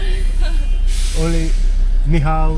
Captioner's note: laugh